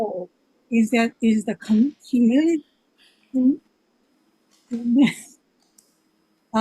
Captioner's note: laughs